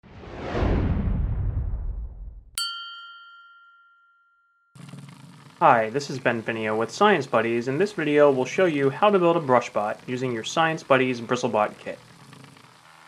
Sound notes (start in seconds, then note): 5.6 whoosh; 6.0 ding